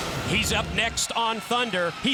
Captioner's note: crowd cheering